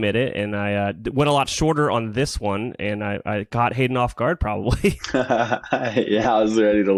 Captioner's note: laughs